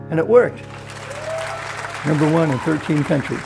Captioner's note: crowd applauding